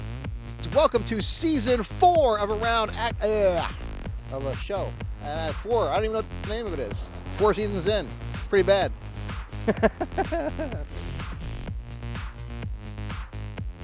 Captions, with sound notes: Welcome to season four of Around ahh, of a show. And at four, I don't even know what the name of it is. Four seasons in, that's pretty bad. (laughing) (upbeat electronic music)